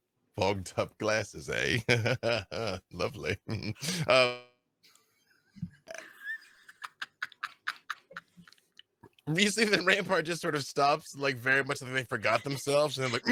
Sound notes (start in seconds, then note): 1.8 laughs; 4.3 laughing